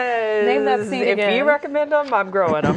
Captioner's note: laughing